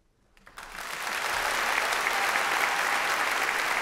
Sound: clapping

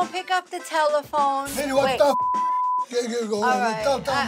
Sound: beep

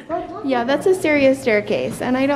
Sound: laughs

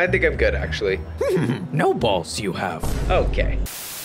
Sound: chuckles

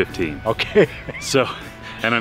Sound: laughing

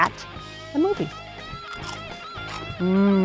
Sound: popcorn crunching

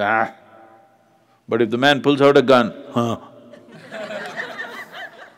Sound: laughter

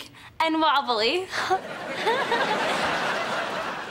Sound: giggling

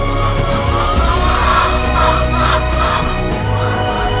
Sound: chickens clucking

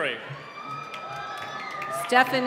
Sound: cheering

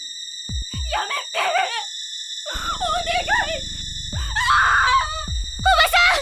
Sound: screams

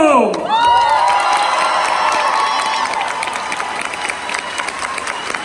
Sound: crowd cheers

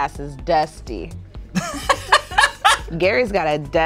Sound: both laughing

